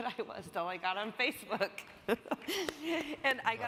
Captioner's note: chuckles